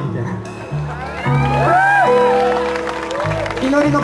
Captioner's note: audience applauds